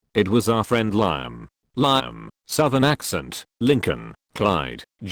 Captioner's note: southern Accent